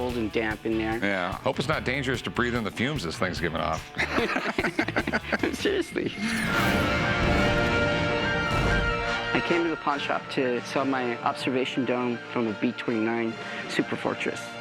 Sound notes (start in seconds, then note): 3.9 laughter; 6.0 dramatic music